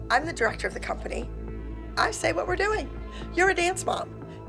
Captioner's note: none